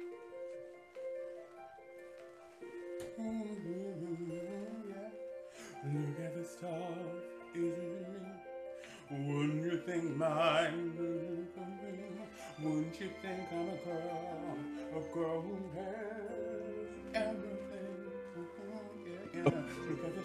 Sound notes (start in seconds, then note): 2.9 humming; 19.4 stifled laugh